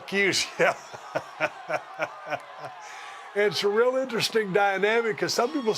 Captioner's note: laugh